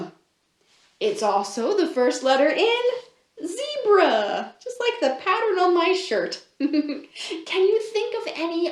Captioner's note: laughs